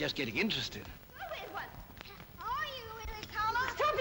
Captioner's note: children yelling & taunting